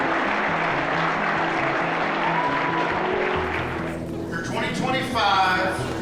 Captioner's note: applause